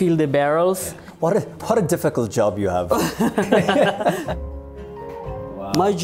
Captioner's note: rires